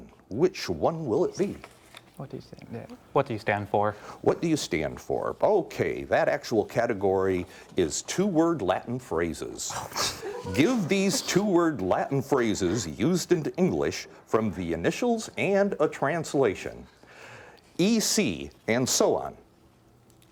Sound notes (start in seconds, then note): 1.9 whispering